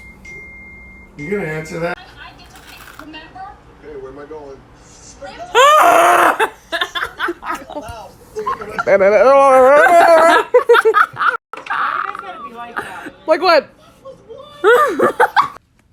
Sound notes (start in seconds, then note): 0.1 more notifications going off; 5.5 yells; 6.3 laughter; 14.6 laughter